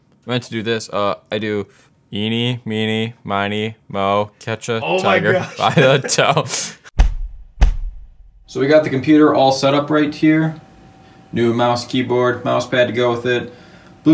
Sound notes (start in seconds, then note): 4.9 laughs; 7.0 thudding